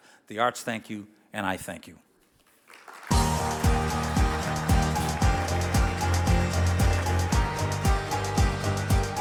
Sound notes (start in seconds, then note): 2.6 audience applauds; 3.1 bright music